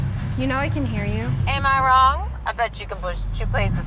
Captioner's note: on phone